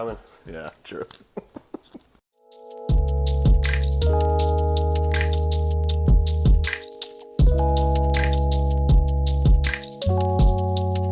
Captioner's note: chuckles